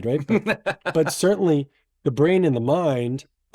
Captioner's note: laughs